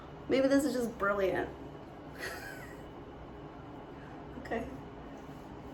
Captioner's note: chuckling